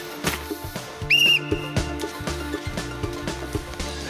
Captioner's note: blows whistle